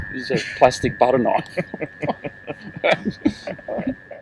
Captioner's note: laughing